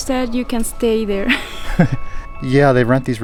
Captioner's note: laughs